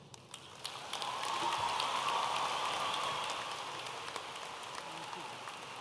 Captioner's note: audience applauding and cheering